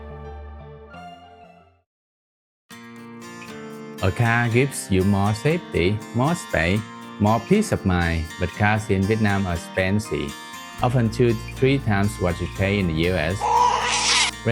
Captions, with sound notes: A car gives you more safety, more space, more peace of mind But cars in Vietnam are expensive — often 2 to 3 times what you’d pay in the US - (baby cry)